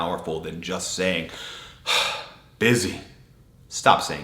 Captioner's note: exhales deeply